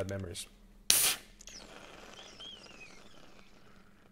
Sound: can fizzes

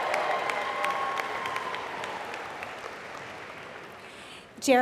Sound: applause

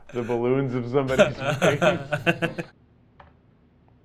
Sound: laughs

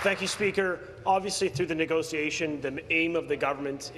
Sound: applause

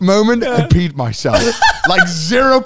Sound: laughing

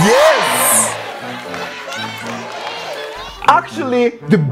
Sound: laughing and clapping

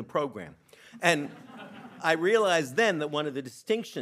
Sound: audience laughing

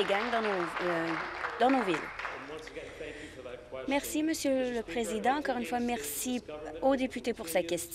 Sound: applause

